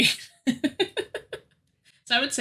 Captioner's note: laughing